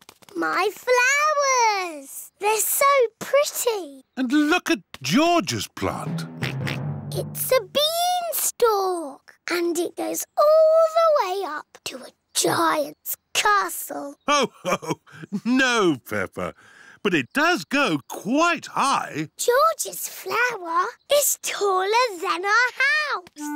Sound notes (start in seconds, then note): 6.3 oinks